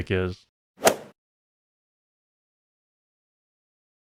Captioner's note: golf ball hit sound